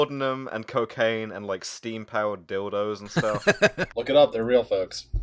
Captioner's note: laughter